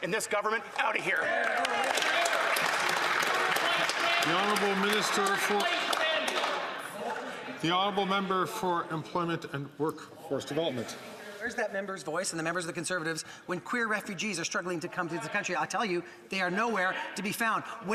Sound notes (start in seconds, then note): 4.9 some Applause